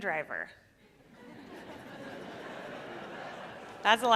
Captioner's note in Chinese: 笑聲